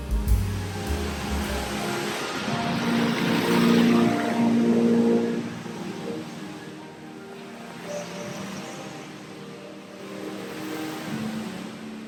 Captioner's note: fountain playing